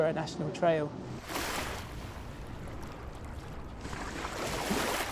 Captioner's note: water crashing gently